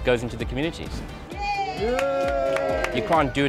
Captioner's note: crowd cheering